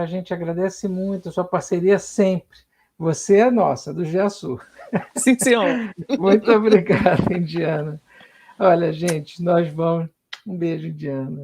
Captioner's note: laughs